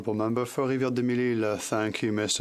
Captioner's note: speaking French